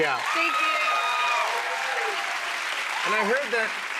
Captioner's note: cheers and applause